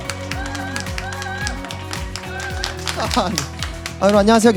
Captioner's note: nice to meet you. / Applause